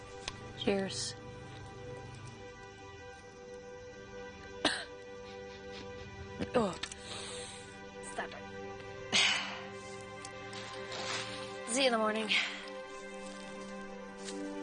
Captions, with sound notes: Cheers. - [coughs] - [laughs] Ugh. Stop it. See you in the morning.